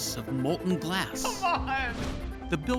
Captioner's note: laughing